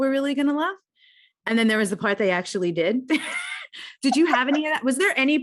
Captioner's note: laughs